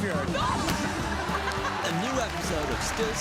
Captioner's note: laughter